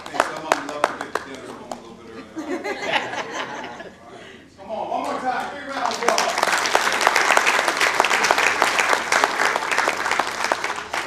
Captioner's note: applause